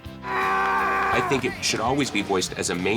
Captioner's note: yells